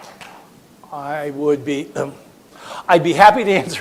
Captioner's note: coughs